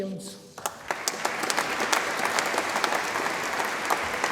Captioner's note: audience applauds